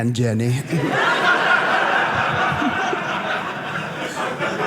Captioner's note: audience laughing